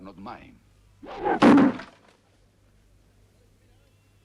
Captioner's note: knife thuds